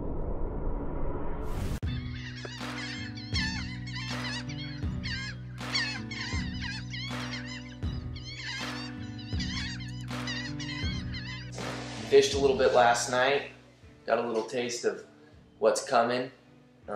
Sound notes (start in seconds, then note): 1.8 birds squawking